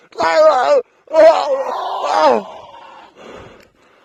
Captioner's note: screaming; heavy breating